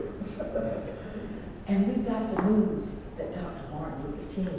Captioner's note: laugh